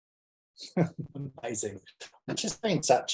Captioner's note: chuckles